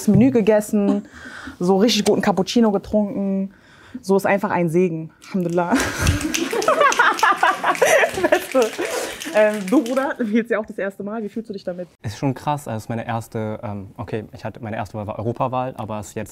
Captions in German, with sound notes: Menü gegessen, so richtig guten Cappuccino getrunken. So, ist einfach ein Segen. Alhamdulillah. [lacht] [Publikum schnipst] Beste. Bruder, du wählst ja auch das erste Mal. Wie fühlst du dich damit? - Es ist schon krass, also meine erste Wahl war die Europawahl.